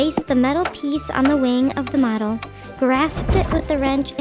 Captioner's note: tools tinkering